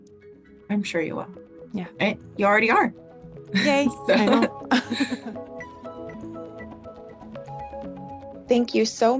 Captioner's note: laughter